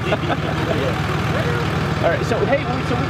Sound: people laughing

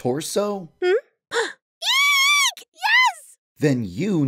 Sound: gasp

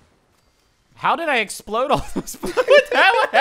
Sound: laughing

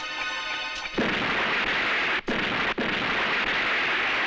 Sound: explosion

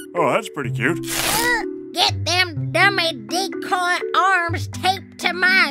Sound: soundbite of duct tape

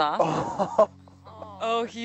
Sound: man laughing

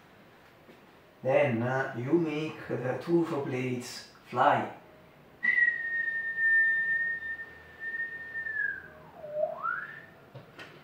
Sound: whistle

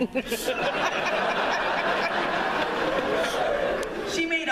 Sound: laughter

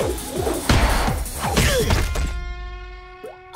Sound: grunting

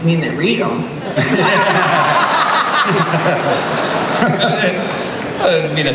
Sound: laughter

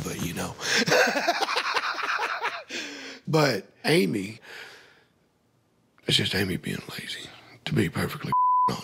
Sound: laughs

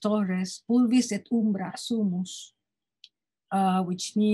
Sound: speaking in foreign language

